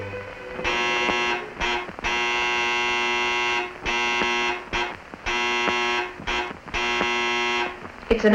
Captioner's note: buzzer sounds several times